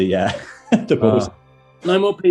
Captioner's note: laughs